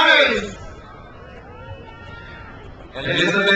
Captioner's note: crowd cheers